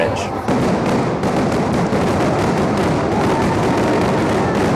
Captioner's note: fireworks exploding